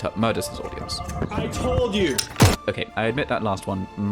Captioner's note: gunshot